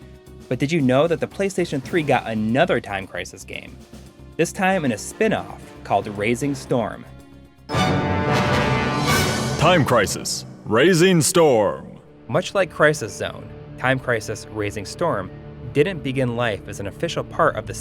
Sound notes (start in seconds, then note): 7.6 game audio